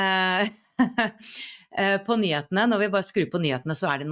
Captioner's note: laughter